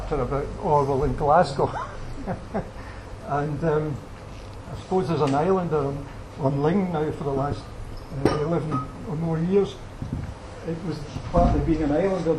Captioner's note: laughs